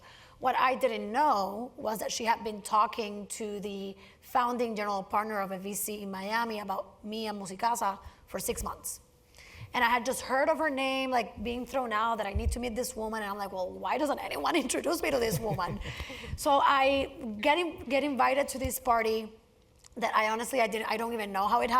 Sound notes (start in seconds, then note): 15.2 laugh